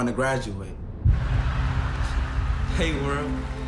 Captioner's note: cheers and applause